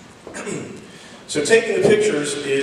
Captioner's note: clears throat